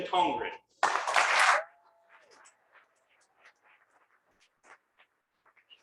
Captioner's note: cheering and applause